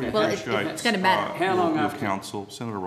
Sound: crowd talking

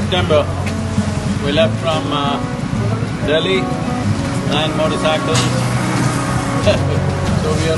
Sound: laughs

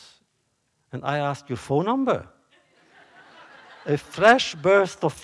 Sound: laughter

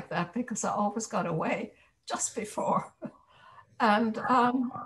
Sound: chuckles

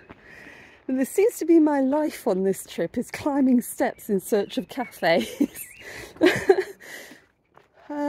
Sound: laughing

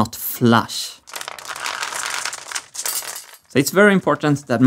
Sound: marbles rolling around

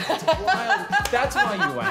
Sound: laughing

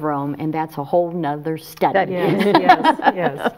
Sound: laughs

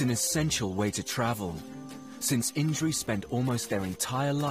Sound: lemurs howling

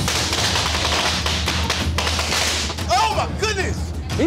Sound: firecrackers popping

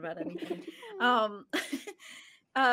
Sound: person laughing

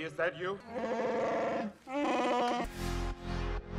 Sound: chewbacca noises

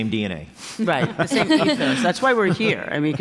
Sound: laughter

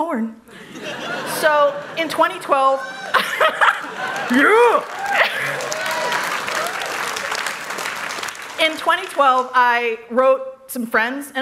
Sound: laughter; cheers

